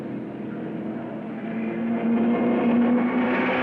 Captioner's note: car revving